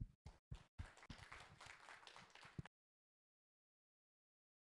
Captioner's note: audience applauds